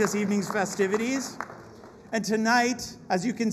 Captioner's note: applause